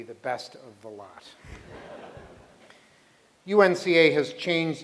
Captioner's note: laughter